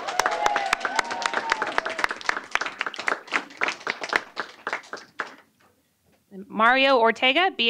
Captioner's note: applause